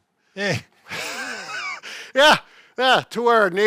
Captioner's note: laughs